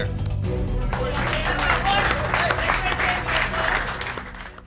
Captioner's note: clapping